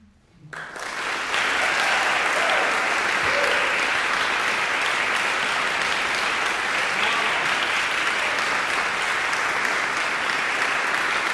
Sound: applause

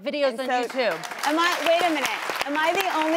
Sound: audience applause

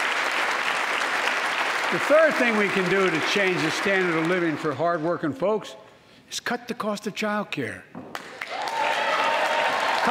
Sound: applause

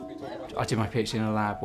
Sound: background Discussion

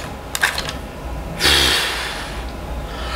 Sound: exhales

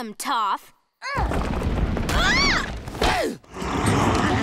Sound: grunting, groaning

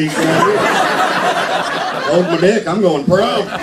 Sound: laughter

